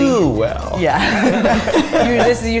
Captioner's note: all laughing